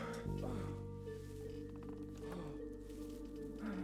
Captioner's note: mr. grey grunting